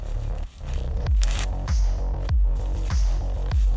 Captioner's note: package ripping